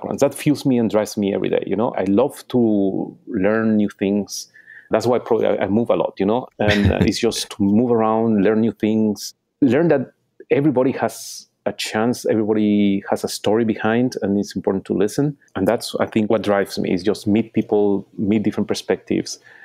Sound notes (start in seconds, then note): 6.6 laughing